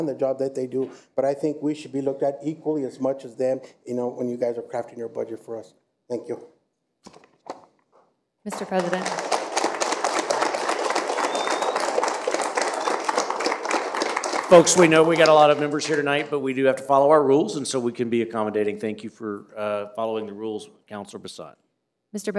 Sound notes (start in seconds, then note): 15.2 applause